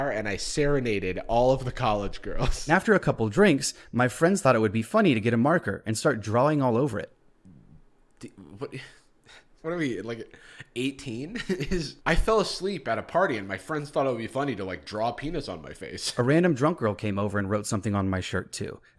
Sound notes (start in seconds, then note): 8.2 sighs